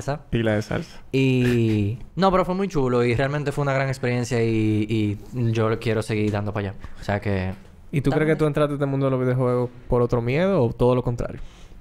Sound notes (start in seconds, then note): 1.4 laughs